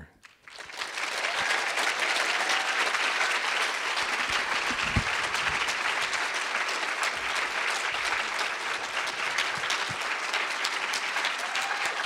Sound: applause

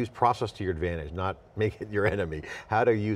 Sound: chuckles

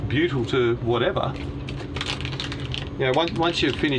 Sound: plastic rattling

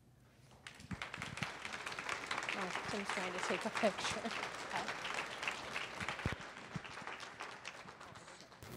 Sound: applause

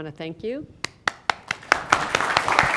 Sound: applause

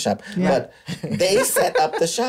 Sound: laughter

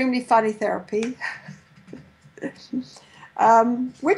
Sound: laughs

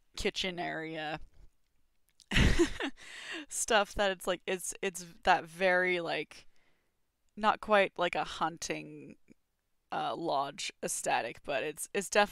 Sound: laughs

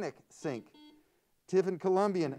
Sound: buzzer sounds

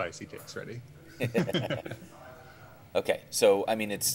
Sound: laughing

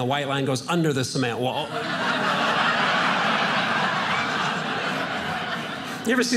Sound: audience laughing

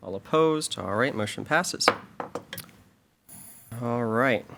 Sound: gavel pounds

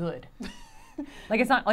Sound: chuckling

